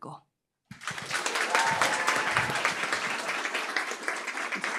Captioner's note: applause